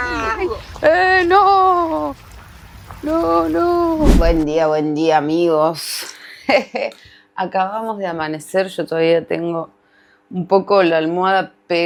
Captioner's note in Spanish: risas